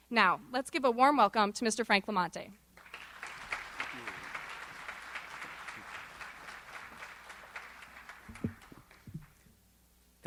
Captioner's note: applause